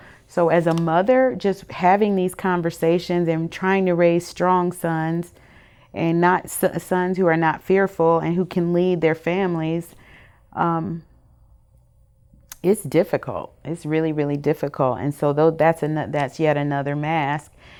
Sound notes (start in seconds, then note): none